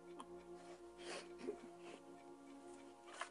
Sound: sobbing

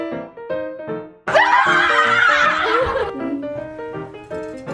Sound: cheering

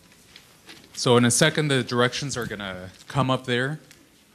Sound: voiceover

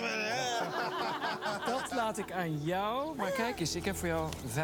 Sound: laughter

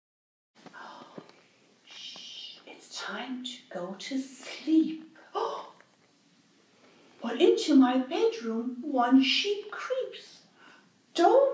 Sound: silence; gasp

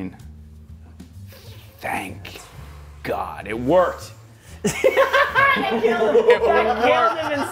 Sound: laugh

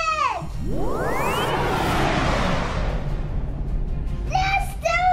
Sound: electric sound

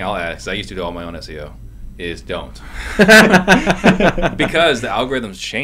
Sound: laughter

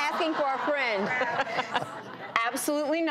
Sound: all laughing

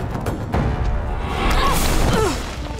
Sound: grunting

